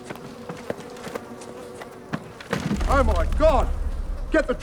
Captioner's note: flies buzzing